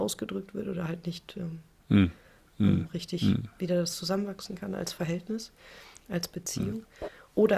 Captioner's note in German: räuspern